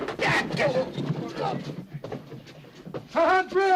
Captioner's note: none